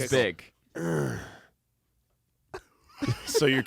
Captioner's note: grunts